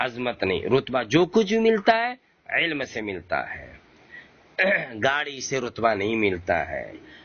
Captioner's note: clears throat